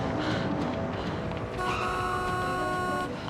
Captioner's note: car honks